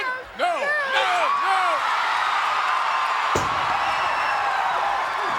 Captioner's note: audience cheers